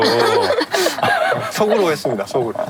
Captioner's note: hahaha